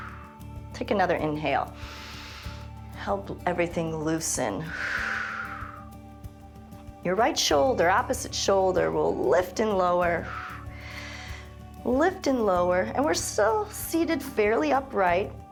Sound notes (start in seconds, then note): 1.7 inhales; 4.6 exhales; 10.2 exhales and inhales